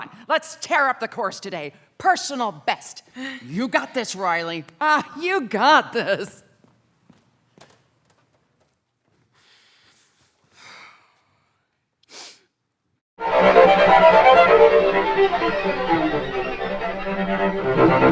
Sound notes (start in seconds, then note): 10.3 sighs